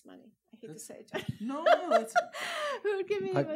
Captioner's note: laughs